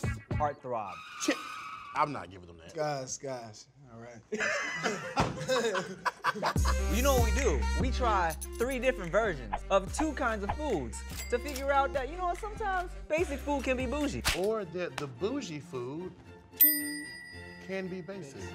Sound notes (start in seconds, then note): 4.2 all laughing